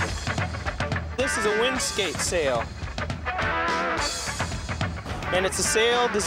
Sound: <i> popping</i>

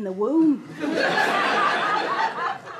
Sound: audience laughter

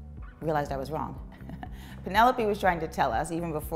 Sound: chuckling

